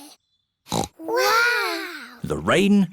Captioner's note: peppa snorts